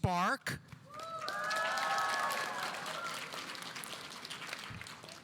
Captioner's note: audience applauding